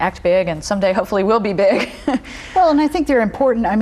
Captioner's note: laughs